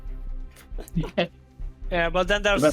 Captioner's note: chuckling